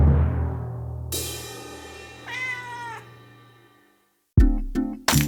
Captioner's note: suspenseful music; cymbal rattles; cat meows; upbeat music